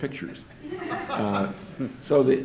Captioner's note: audience laughs